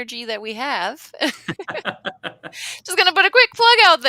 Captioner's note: laughing